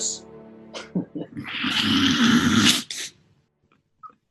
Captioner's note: giggles